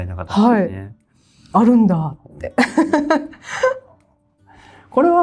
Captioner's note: laughs